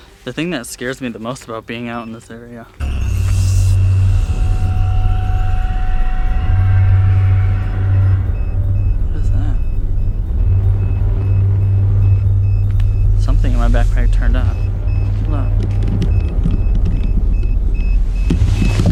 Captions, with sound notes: The thing that scares me the most about being out here alone in this area... (ominous music) (beeping) What is that? Something in my backpack turned on. Hold on. (beeping)